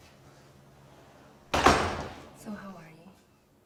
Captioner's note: door closing